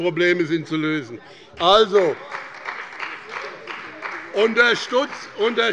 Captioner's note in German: Beifall bei dem BÜNDNIS 90/DIE GRÜNEN und der CDU